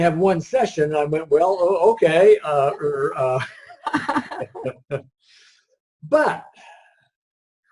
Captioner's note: laughs